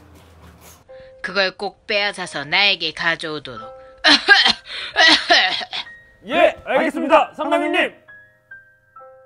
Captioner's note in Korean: 콜록콜록